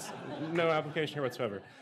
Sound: laughter

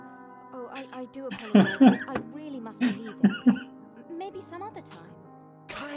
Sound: laughs

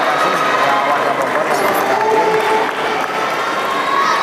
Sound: applause

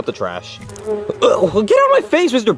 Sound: bee buzzing; Mario groaning

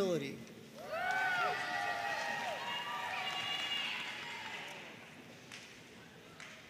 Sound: audience cheering and applauding

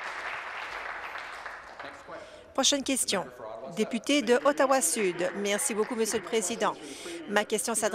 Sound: applause

